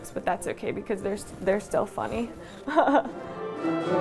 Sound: chuckles

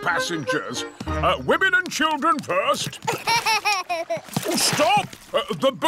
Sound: laughs

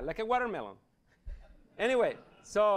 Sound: laughter

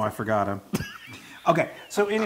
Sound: laugh

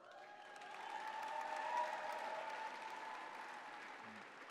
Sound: applause

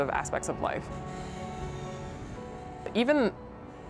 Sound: breaths in deeply

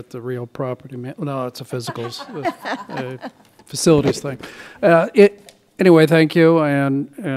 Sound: laughter

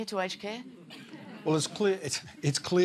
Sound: chuckling, murmuring

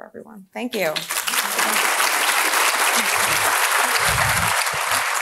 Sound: audience clapping

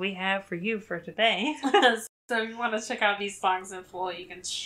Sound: laughs

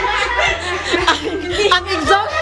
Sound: laughing

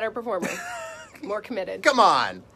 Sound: laughs

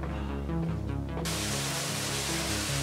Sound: waterfall sounds

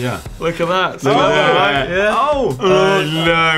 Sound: voiceover

